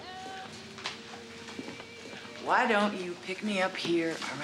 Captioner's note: none